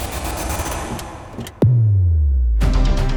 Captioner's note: car doors opening